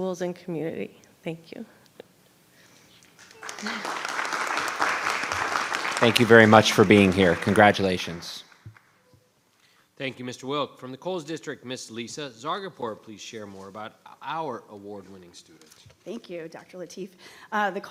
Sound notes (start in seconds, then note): 3.2 audience applauds